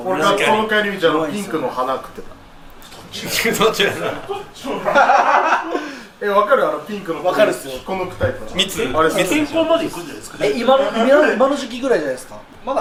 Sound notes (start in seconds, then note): 5.8 laugh